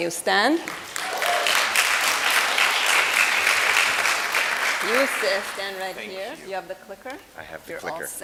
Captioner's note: applause